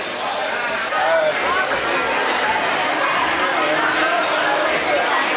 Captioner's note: noisy bar